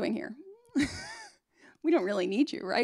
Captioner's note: laughs